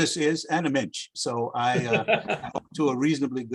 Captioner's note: laughs